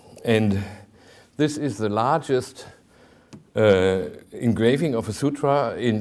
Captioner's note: none